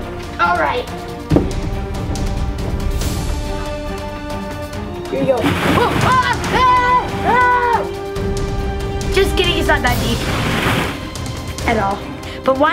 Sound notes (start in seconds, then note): 5.9 screaming